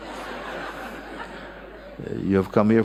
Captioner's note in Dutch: gelach